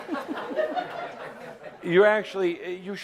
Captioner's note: laughter